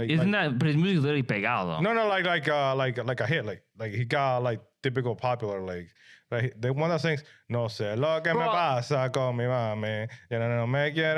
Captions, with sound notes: Isn't that, but he's really pegao though. No, no, like a hit, like, he got like typical popular like, one of the things, (Speaking In Foreign Language)